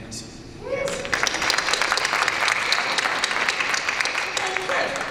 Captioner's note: applause and cheers